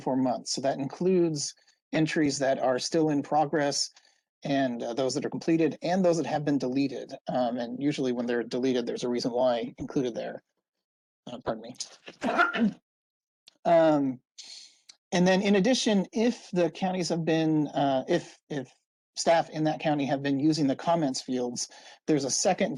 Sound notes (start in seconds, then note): 12.0 coughs